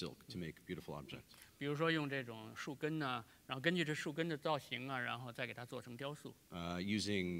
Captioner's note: speaking in Chinese